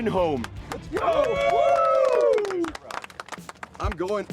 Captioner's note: applause and cheering